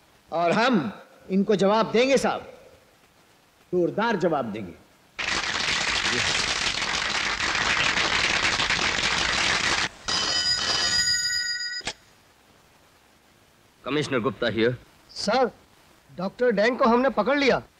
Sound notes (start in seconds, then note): 5.1 applause; 10.0 phone rings